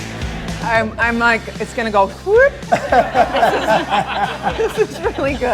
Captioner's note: laughter